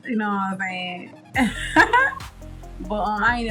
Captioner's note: laughs